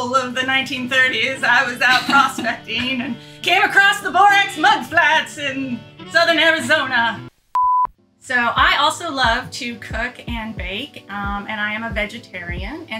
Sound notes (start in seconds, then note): 7.5 beep